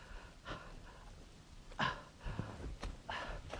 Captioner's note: Arawn panting